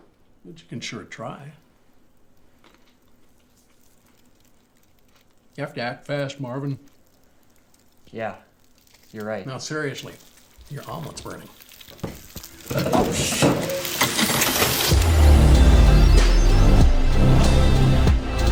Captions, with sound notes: but you can sure try. You have to act fast, Marvin. -Yeah, you're right. -No, seriously. Your omelet's burning. -[sizzling] -Oh shoot [upbeat synth pop music]